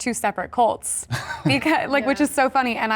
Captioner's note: chuckles